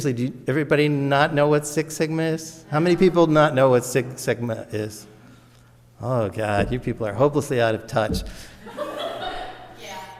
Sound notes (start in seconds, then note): 5.3 audience murmurs; 8.5 audience laughs